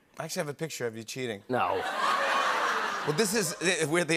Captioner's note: laughter